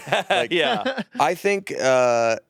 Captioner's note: laughs